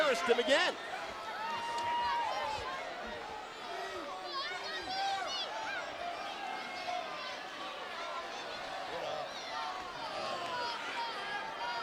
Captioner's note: crowd chatter